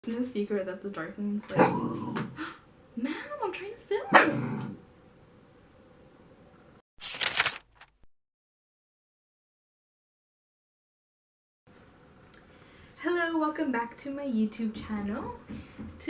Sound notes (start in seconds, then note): 1.5 puppy growls off camera; 8.1 Puppy growls some more